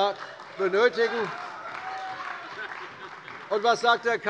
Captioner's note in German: Beifall bei der CDU - Lachen bei der SPD